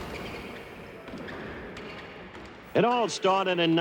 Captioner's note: basketball thudding